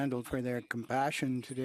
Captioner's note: speaking French